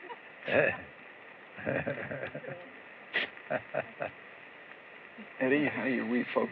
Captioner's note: chuckles